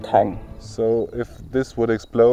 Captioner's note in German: englisch